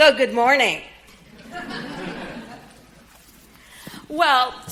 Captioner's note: audience laughing